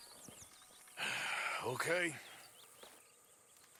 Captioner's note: sighs